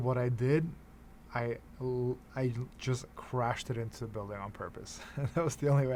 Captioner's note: chuckles